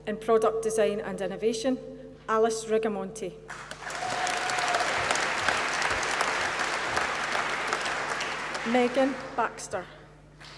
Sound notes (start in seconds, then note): 3.5 applause